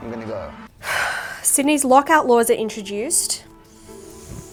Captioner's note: sighing; dramatic music